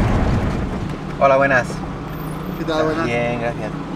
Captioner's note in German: auf Spanisch